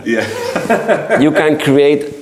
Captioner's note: laughs